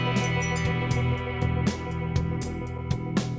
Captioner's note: wind chimes jingle